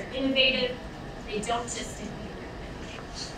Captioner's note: speaking away from mic